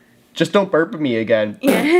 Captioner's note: blows raspberries